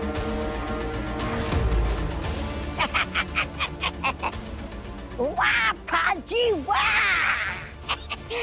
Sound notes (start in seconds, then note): 2.7 laughing